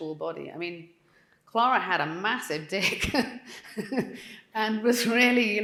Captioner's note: laughing